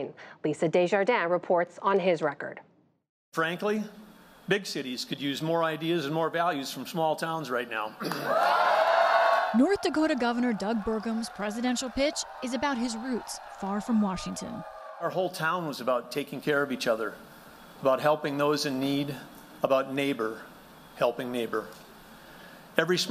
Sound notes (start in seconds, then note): 8.0 cheering and applause